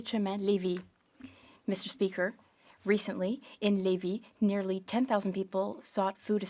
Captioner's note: speaking French